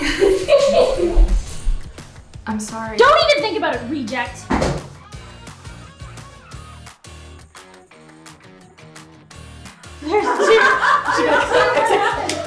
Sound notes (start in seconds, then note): 0.0 laughing; 4.4 loud bang; 10.0 laughing